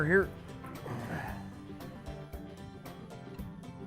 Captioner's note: grunt